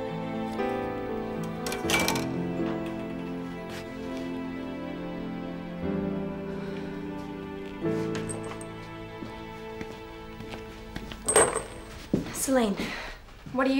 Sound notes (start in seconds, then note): none